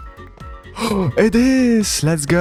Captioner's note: gasp